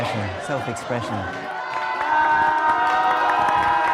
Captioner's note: all cheer and applaud